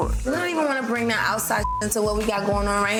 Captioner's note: beep